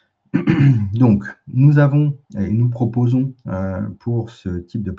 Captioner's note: raclement de gorge